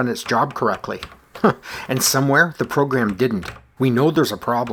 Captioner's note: chuckles